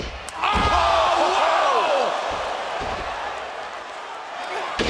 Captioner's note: Percy laughing